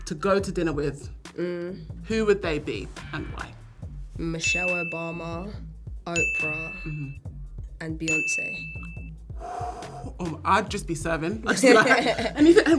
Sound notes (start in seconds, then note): 9.4 blows loudly; 11.6 little laughs